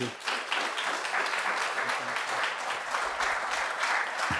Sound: applause

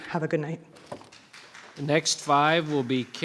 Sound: audience applauding

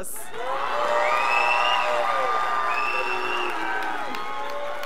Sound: scholars applauding

